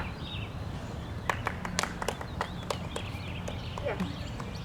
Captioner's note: clapping